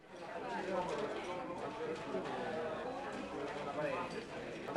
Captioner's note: soft restaurant background noise